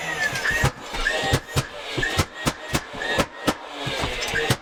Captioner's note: nail gun thumping